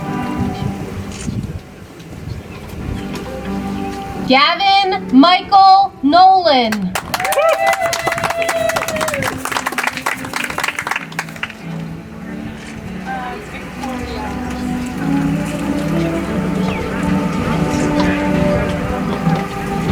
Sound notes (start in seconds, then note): 10.5 audience applauds; 16.8 soft music